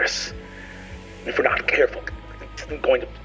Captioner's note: mimics distortion